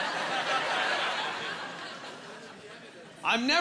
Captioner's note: laughing